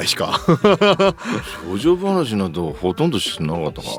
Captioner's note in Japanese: 笑い